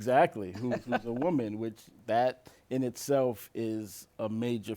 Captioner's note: laughs